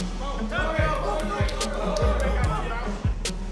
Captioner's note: inmates shouting